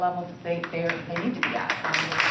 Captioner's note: applause